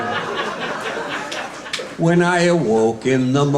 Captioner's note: audience laughing